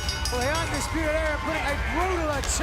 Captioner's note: bell ringing